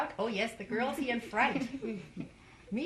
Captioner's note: laughter